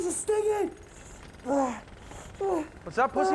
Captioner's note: groaning